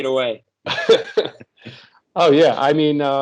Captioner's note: laugh